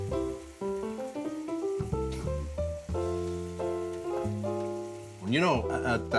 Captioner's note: piano jazz music; liquid simmers in pan